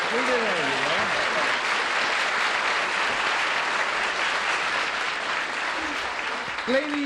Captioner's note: applause